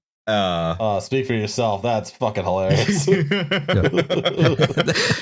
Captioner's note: laughter